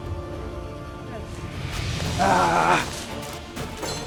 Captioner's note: grunts